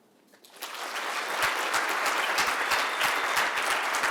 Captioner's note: applause